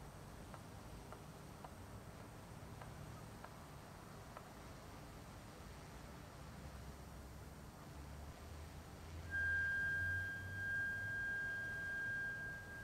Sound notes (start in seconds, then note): 9.3 whistling